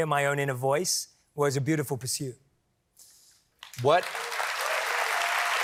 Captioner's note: applause